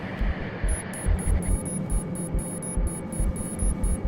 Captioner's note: error signal